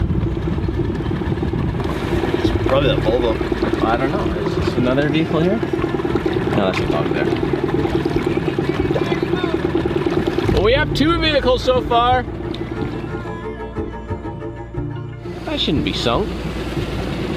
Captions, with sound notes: - It's probably that Volvo. - I don't know, is this another vehicle here? I'll ask partner. (far off shouting) - We have two vehicles so far. That shouldn't be sunk.